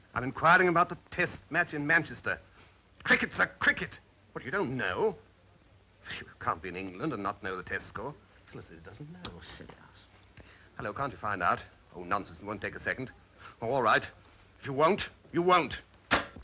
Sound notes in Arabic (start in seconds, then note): 5.9 يسخر